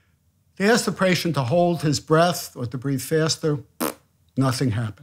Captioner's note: blows raspberry